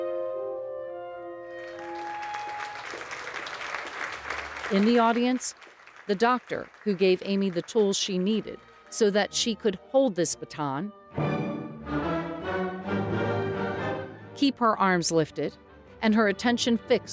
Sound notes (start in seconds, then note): 1.5 audience clapping